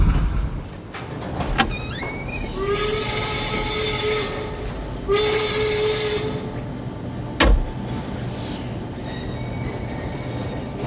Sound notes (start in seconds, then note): 2.5 factory horn